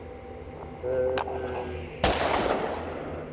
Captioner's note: groaning sounds; gunshot blasts